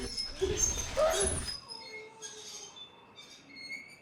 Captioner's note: wheelchair squeaking